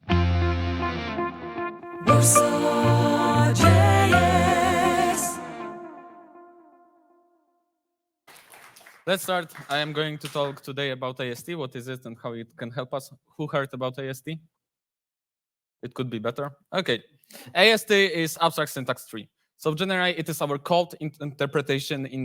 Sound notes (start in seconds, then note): 5.6 soft music; 8.2 audience clapping